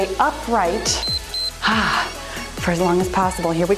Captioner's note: timer beeps